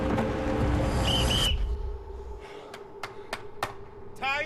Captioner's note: whistle blows 2 times